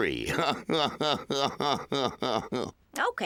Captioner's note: chortling